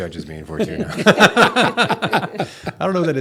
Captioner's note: laughter